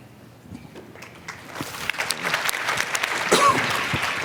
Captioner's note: applause